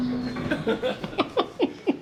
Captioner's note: laughing